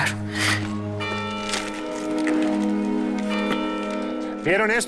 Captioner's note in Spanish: Campanadas